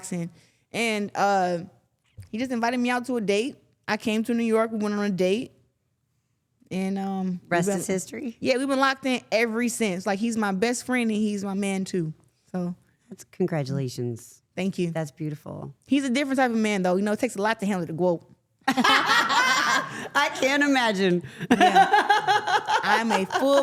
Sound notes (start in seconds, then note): 18.7 everyone laughing; 22.3 laughing